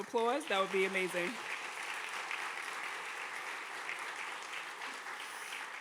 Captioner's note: audience clapping